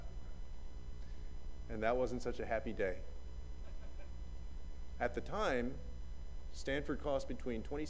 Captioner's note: laughter